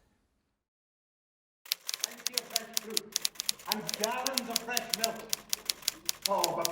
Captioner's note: typewriter noise